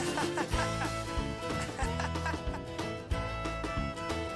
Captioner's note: Jack laughing